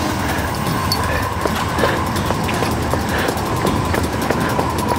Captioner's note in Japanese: 息切れ